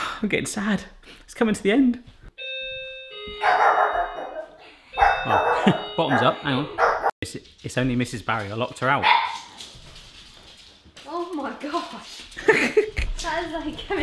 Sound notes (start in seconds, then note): 2.4 doorbell ringing; 3.5 dog barking; 12.3 laughs